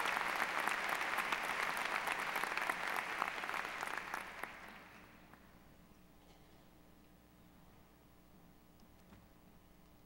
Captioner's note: applause